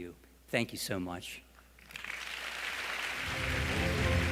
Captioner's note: applause